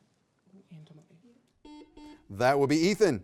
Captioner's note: beep